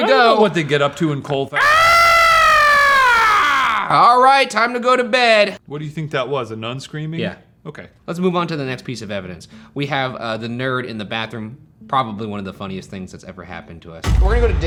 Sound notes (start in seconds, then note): 1.5 screams